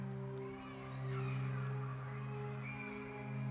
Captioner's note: children playing